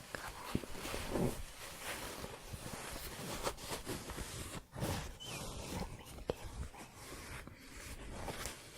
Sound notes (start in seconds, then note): 1.6 shuffling; 8.3 shuffling and scratching